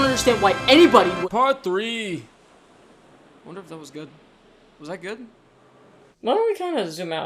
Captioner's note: stammers; in deep voice